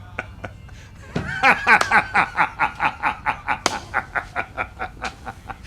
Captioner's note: Jock loudly cackling